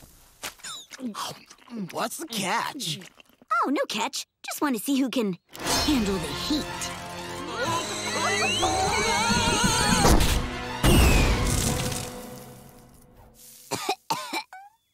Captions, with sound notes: What's the catch? Oh, no catch. Just want to see who can handle the heat. [groaning] [coughing]